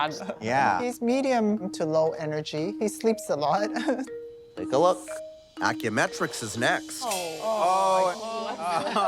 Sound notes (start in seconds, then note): 3.6 chuckles; 7.0 all exclaiming